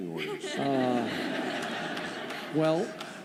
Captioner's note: laughter